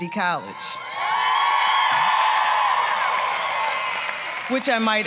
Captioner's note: applause, cheering